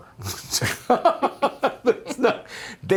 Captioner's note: laughs